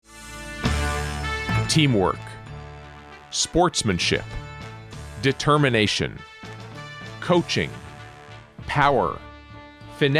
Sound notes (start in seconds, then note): 1.0 voiceover